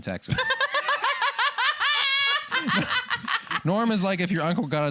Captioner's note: laughter